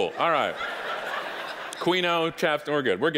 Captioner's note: audience laughing